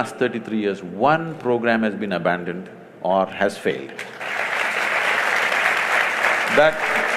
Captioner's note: applause; 掌聲